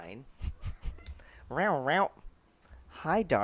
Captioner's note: imitates Darla's off-screen meow